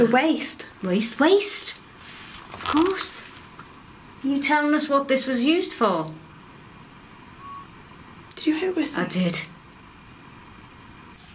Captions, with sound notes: - The waste. - Waste, waste! Of course, are you telling us what this was used for? (quiet whistling) - Did you hear a whistle? - I did.